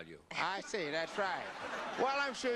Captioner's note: audience laughter